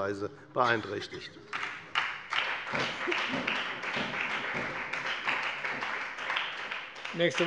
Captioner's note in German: Beifall bei der FDP und der SPD